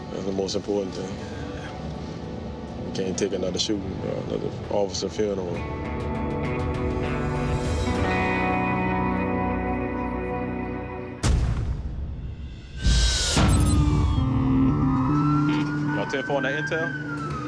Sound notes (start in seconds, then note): 5.8 somber music playing; 13.2 sirens